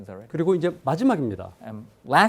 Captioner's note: speaking in Korean